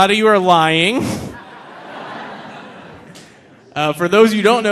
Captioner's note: audience laughing